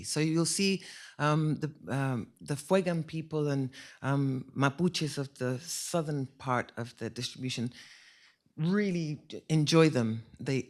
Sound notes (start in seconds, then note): none